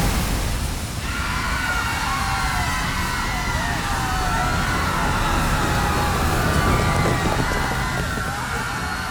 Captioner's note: screaming